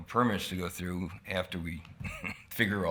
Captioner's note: chuckles